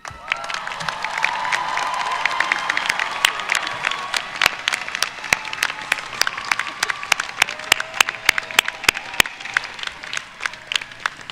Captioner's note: applause